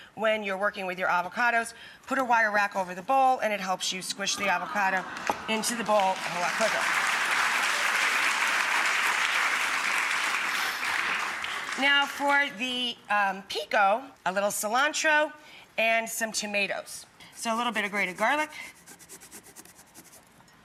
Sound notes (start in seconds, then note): 5.6 audience applause